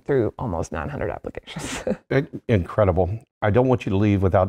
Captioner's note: laugh